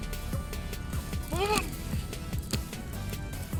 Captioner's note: yelling